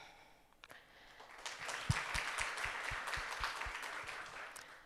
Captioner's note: audience applauding